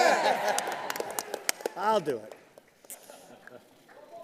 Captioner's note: applause